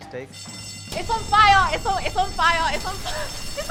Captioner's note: fire alarm